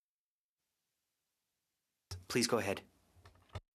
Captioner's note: speaking French